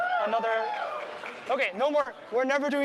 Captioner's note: cheering